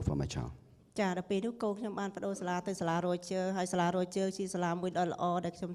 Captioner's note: speaking foreign language